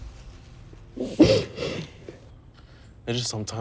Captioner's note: crying